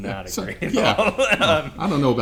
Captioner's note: laughs